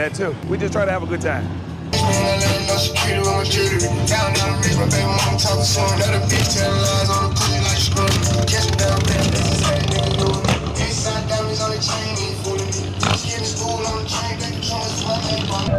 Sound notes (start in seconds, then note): 2.2 rap music; 6.5 engines rumbles